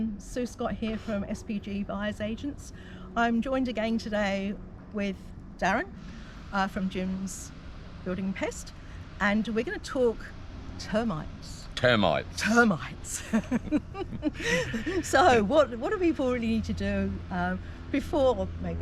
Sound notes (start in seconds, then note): 13.1 both laughing